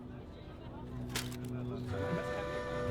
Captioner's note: camera clicks